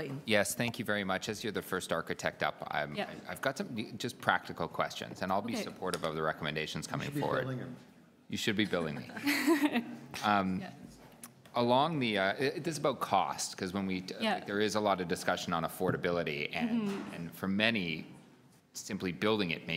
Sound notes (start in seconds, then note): 8.6 laughter